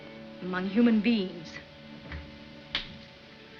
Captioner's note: none